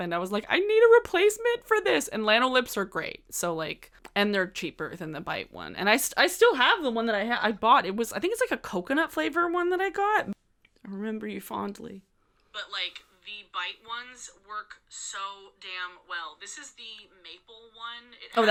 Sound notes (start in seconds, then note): none